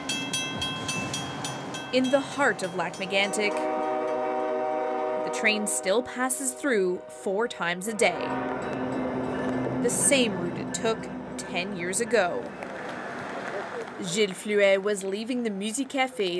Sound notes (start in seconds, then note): 0.0 train wistle; 2.4 crossing bell